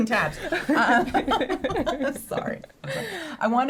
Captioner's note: laughing